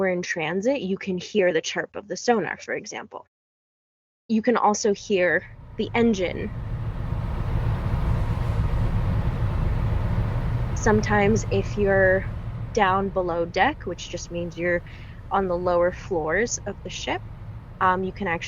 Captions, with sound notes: we're in transit you can hear the chirp of the sonar for example. You can also hear the engine [engine noise] sometimes if you're down below deck which just means you're on the lower floors of the ship you